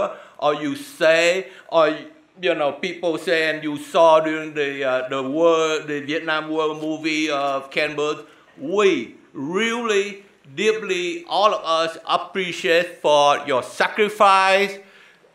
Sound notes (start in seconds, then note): none